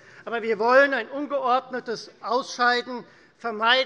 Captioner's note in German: none